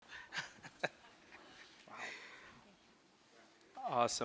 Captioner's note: chuckling